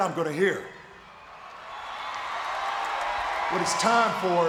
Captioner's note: audience cheering